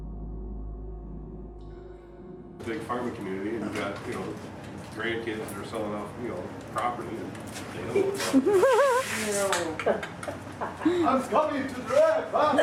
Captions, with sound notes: - La gran comunidad de la agricultura, tienes nietos que están vendiendo fuera de la propiedad que usted sabe. (risas) - Voy a arrastrar el pasado.